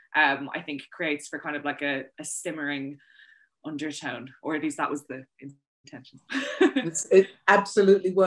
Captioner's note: laughs